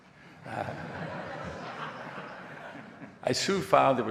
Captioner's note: audience laughing